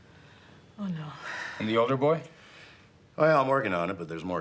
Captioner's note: sighs